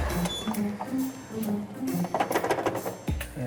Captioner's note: rattling